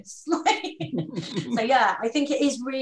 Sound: laughs

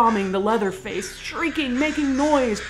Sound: crow calls; crow calls intensify

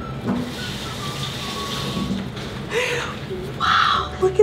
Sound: sizzling

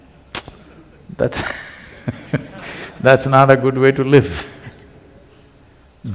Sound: laughs

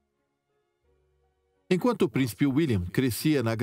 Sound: voiceover

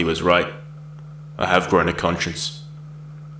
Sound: voiceover

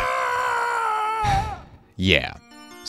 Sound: sigh

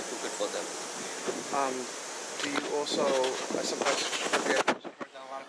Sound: wind blows

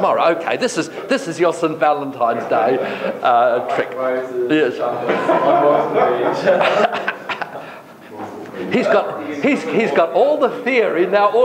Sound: laughter

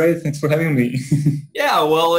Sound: laughs

